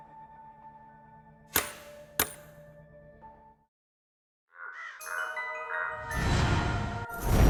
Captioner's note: confused